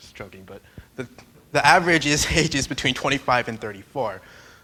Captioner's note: chuckles